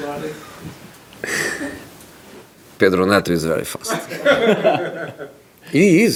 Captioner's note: still laughing